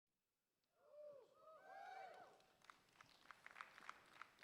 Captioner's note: crowd cheering